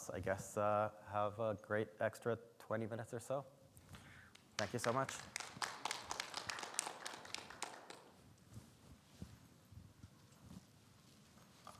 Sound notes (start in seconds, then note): 4.2 audience clapping